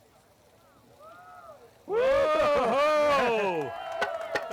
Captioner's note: cheering